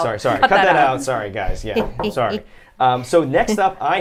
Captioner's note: chuckles